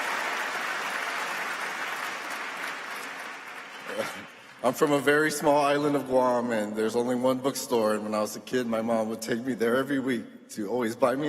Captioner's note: applause